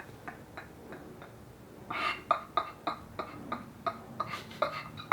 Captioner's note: laughing